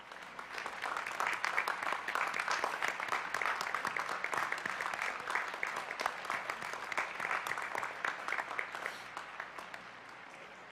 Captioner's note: applause